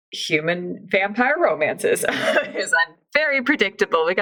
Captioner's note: laughs